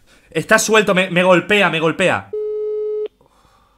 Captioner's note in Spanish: ruido de llamada de teléfono